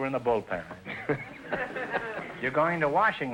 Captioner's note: laughing